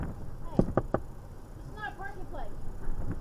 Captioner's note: officer taps three rapid knocks on driver’s window of POV